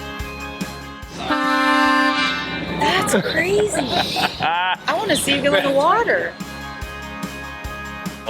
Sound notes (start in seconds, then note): 1.1 bus horn blaring; 2.8 laughs